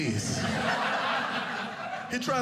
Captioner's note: audience laughing